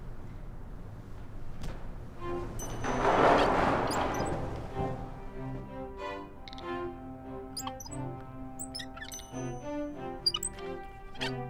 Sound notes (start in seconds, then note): 2.3 silly music playing; 7.4 wheels squeaking; 9.4 silly music continues